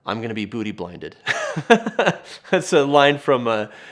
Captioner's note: laughs